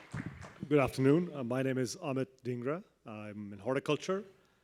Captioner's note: applause